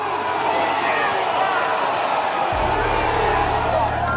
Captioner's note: crowd shouting on video